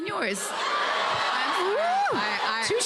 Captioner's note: audience gasps and cheers